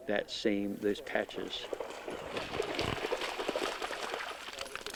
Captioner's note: dog paws splashing in water